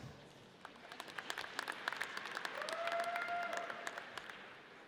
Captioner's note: audience cheers